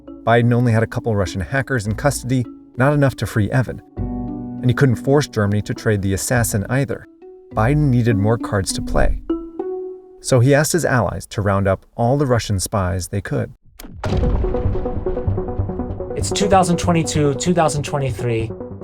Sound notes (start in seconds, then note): 13.7 explosion booming